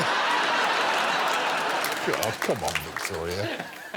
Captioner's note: laughter